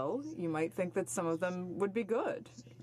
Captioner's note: speaking in French